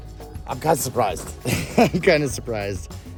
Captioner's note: laughs